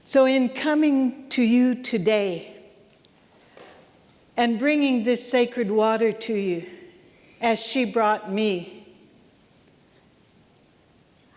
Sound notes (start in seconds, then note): none